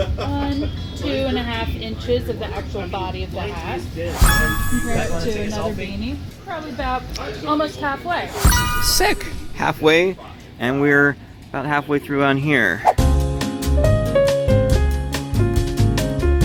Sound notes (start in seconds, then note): 4.1 achievement chime; 8.3 achievement sound; 13.1 elevator music